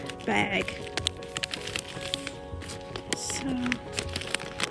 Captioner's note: sound of opening the bag